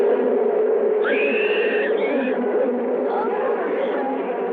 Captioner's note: screaming